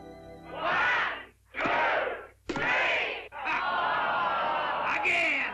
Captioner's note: crowd; crowd groans